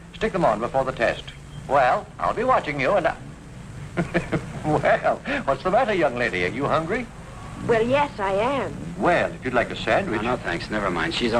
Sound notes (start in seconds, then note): 3.8 laughs